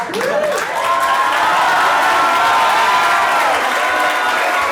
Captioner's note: audience applauds